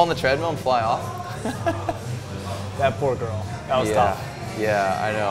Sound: laughs

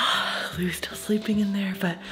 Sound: sighing

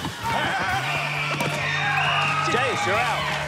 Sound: whistle blows

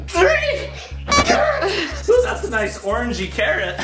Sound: laughing

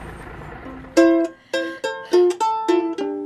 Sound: sighs

